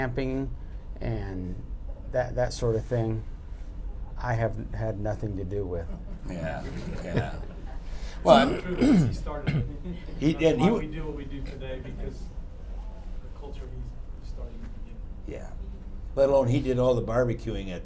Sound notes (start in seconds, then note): 5.8 laughter